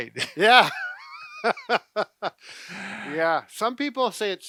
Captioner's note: laughing